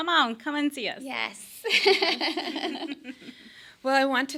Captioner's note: laughing